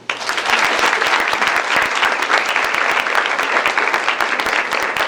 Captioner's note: applause